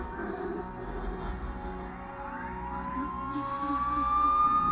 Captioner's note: sirens approaching